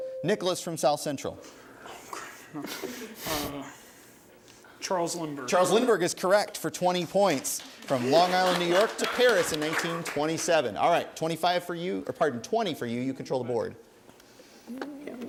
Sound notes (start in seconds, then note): 0.0 ding; 7.2 applause